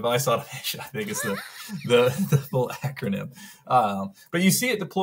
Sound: laughs

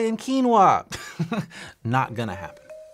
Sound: laughs

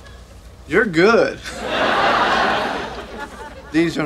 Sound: audience laughing

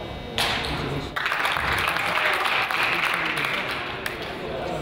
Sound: crowd applauds

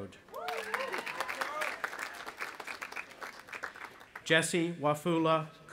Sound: audience applauding

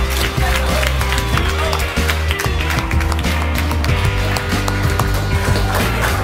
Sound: klatschen

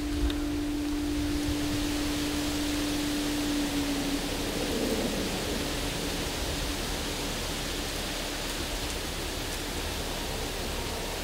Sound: sound of light wind

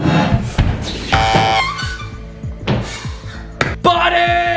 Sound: buzzing

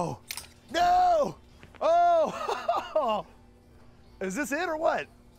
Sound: laughs

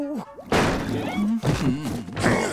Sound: humming

